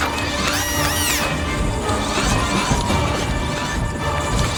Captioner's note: dramatic music; mechanical whirring; robot buzzes and whirs; heavy foot falls